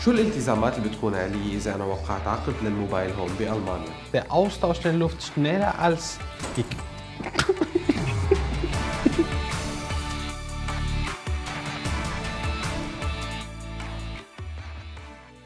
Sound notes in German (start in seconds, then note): 7.2 lacht